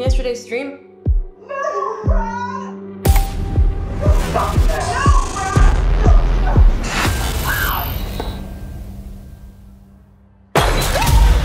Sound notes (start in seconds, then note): 2.1 mouse clicks; 7.4 screaming; 10.6 glass shattering; 10.9 screaming